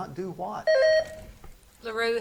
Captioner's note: buzzer beeps